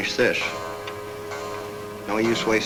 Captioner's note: clock chimes